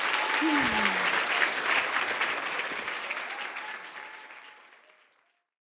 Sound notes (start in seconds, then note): 0.0 audience applauds